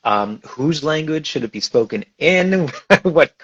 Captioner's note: laughs